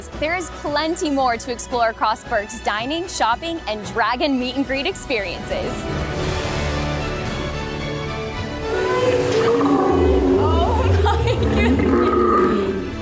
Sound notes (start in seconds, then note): 6.4 majestic music; 8.6 Toothless roars